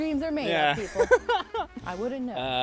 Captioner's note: laughs